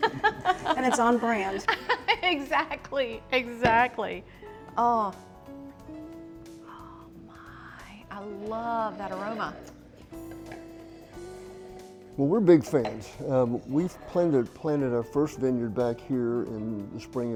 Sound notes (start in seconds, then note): 0.0 all laughing; 2.7 laughing; 4.4 smooth jazz music; 10.4 both sniffing; 10.4 smooth jazz music